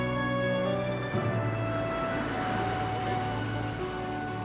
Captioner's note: indistinct chatter